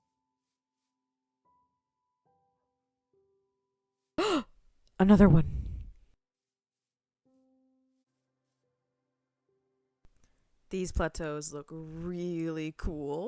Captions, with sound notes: [gasp] Another one. These plateaus look really cool.